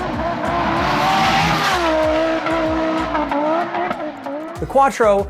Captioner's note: car engine roaring